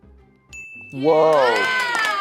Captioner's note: bell dings; audience cheering